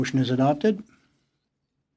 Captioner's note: speaking French